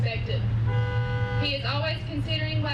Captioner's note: horns honking